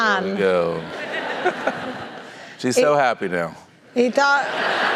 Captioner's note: laugh